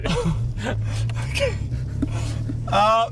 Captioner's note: laughing